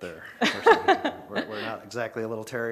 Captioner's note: laughing